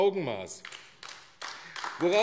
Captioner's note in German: Beifall AfD